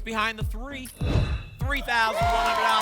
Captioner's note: whoosh